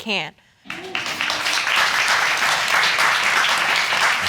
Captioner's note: audience applauding